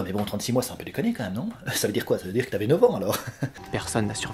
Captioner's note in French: Rire